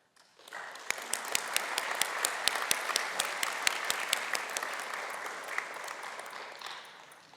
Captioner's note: applause